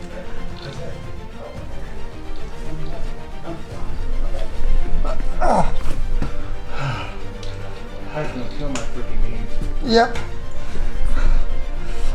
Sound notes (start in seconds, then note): 5.2 groaning and panting